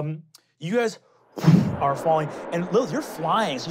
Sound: wooshing

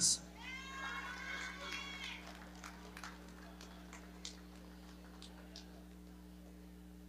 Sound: audience clapping

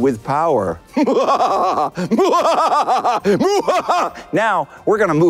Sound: mad laugh

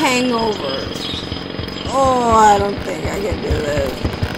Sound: drill pounding

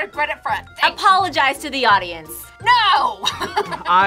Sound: laughs

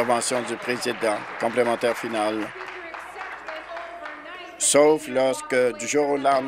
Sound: applause

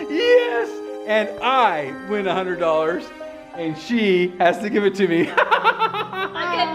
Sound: laughing

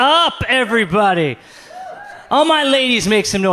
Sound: audience cheers

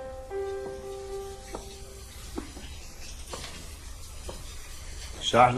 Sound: water splashing

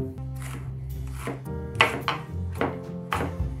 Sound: knife chopping

